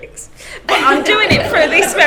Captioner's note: class laughs